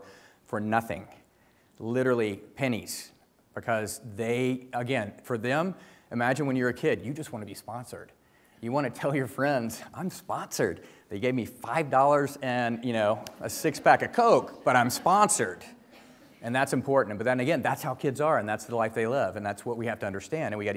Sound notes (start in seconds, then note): 13.4 audience laughs